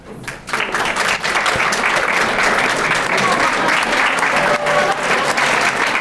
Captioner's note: background chattering; crowd applauding